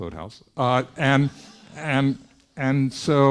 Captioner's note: students laughing